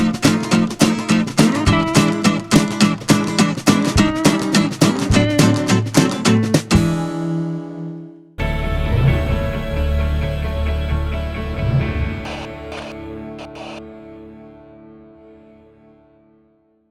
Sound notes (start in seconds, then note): 6.2 graphic whooshing; 6.2 uplifting music; 10.4 static crackling